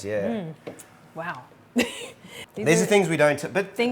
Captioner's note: chuckles